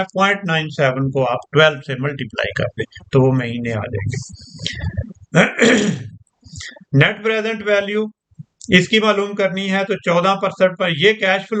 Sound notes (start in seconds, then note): 5.3 clears throat